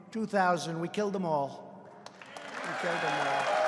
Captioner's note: applause